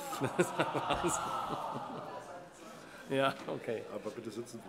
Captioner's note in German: Zurufe: Ah!